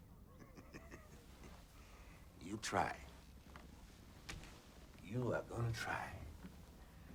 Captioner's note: chuckles